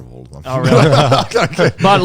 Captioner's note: laughs